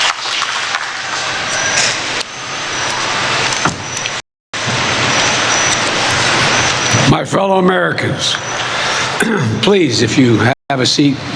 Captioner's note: applause